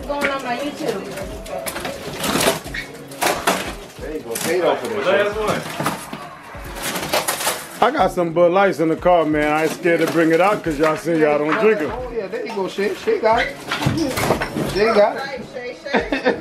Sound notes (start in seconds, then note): 1.5 ripping